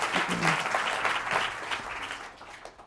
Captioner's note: applause